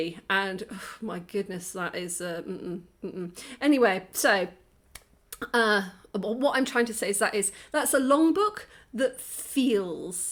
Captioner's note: sigh